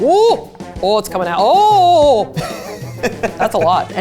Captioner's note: laughs